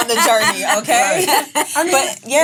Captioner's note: laughs